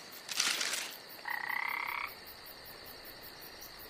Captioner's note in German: Grillenzirpen, entferntes Bellen